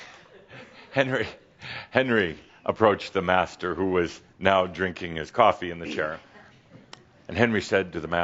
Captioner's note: chuckling